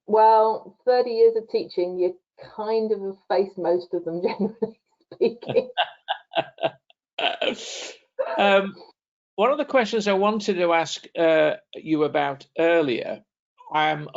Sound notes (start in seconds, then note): 7.9 laughing